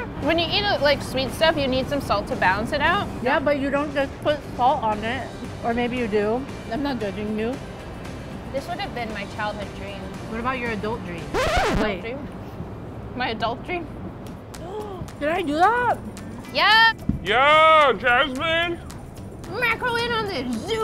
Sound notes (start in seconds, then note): 11.3 record scratch; 14.7 gasps